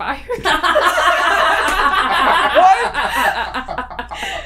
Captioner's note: raucous laughter